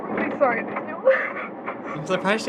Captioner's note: sobbing